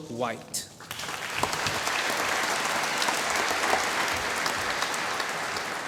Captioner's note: applause